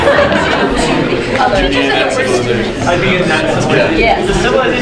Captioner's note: audience murmuring